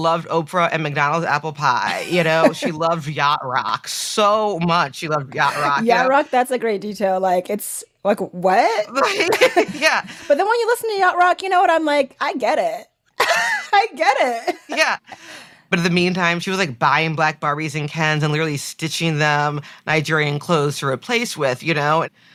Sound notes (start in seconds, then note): 13.2 laughs